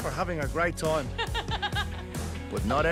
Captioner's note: laughs